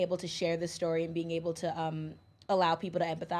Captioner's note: none